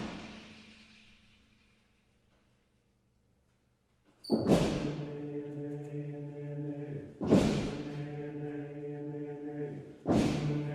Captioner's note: STOMPS and CLAPS